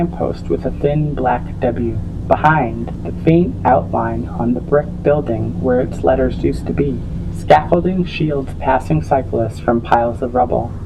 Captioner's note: droning sounds, grinding sounds